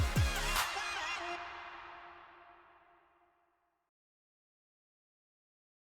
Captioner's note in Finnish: Aplodeja